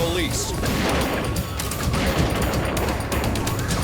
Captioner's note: guns fire